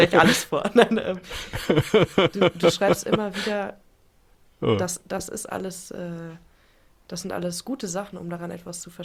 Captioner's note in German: gelächter